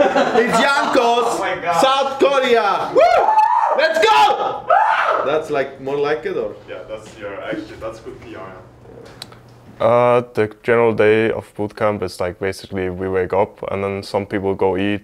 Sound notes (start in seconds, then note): 2.6 team whooping; 3.9 shouting; 4.6 someone screeching